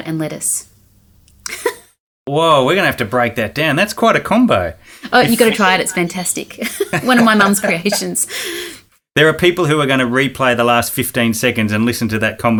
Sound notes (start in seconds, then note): 1.4 laughing; 6.6 both laughing